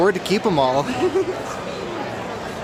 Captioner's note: giggling